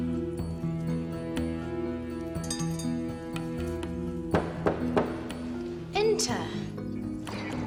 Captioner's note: door knocking